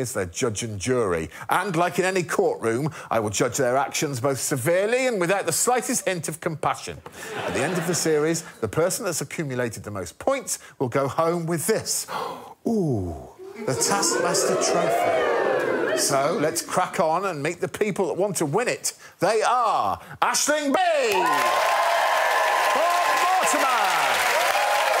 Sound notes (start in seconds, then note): 12.0 gasps; 13.3 audience oohs; 21.0 applause